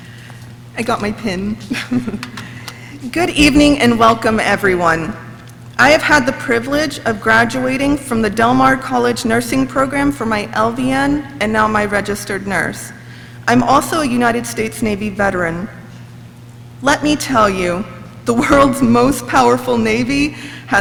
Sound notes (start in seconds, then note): 1.6 laughs